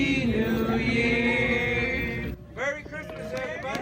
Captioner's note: cheers and applause